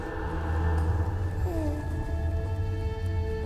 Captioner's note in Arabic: هديل طفل